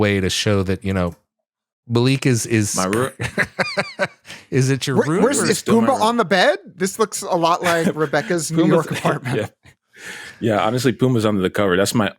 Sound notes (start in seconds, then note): 3.0 laughter